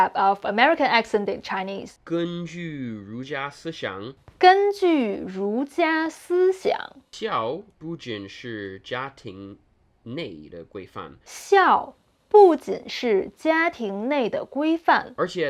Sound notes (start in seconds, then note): 2.1 speaking in Mandarin